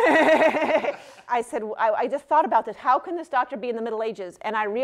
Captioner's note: laughter